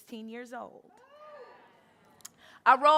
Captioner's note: crowd cheering